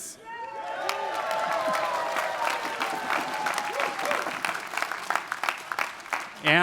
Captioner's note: attendees cheering; attendees applauding